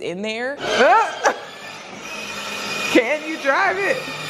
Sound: laughing

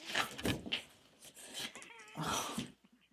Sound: critters mumbling; critters laughing; sigh

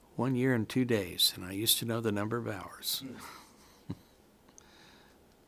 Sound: chuckles

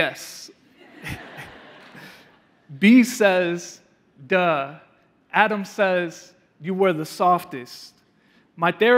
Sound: laughing

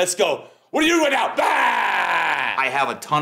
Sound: shouts loudly

